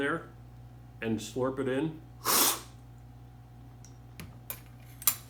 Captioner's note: slurping